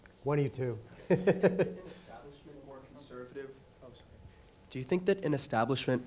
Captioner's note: laughs